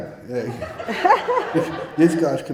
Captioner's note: audience laughing